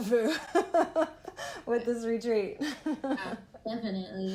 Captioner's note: laughter; laughing